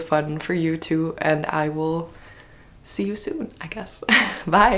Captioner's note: laugh